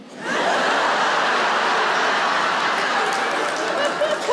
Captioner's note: audience laughs